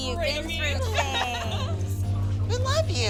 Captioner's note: laughs